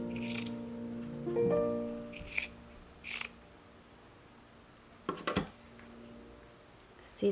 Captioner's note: ASMR scissors again cutting doll skin fabric